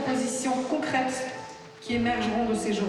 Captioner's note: speaks french